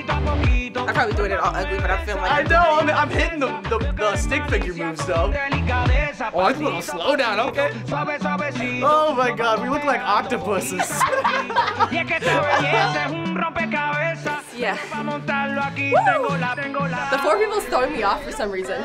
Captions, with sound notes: I'm probably doing it all ugly, but-- - I know, and I'm hitting the stick figure moves though. - Oh, I like the little slowdown. - Oh my God, we look like octopuses. - (laughs) - Yeah, whoo! - The four people's throwing me off for some reason.